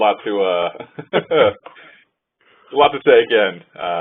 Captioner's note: host laughs